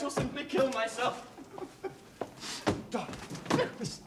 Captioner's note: sobbing